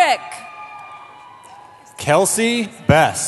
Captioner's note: cheering